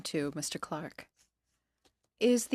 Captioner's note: speaking in French